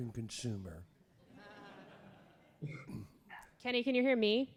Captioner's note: audience laughs